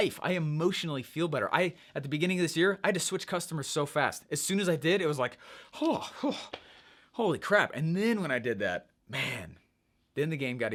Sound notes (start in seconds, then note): 5.4 gasping